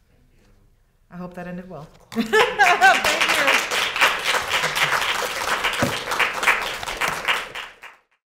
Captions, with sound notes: - Thank you. - I hope that ended well, (laughs) thank you. (students clapping)